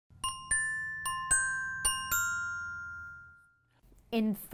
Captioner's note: ringing bells